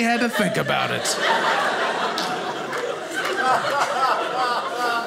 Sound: audience laughing

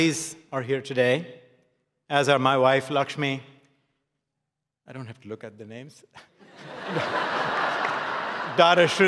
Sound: laughs

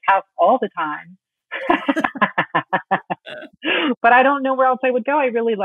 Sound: laughing

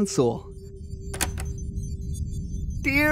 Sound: click

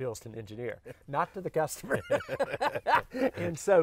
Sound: both laugh

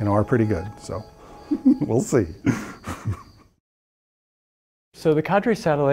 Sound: laughs

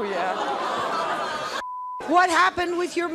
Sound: audience oohing

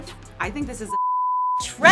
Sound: TV beeps

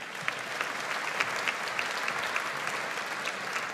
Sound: audience applauds

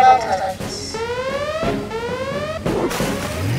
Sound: alarm blaring

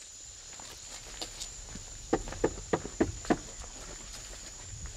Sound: knocking on door

